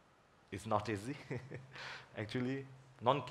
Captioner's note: laughs